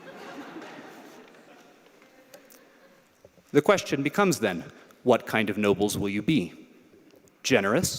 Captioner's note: laughter